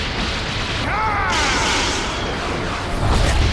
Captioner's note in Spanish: Grita